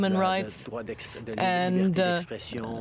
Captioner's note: speaking french